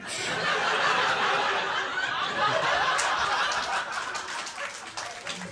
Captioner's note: audience laughs; audience laughing and clapping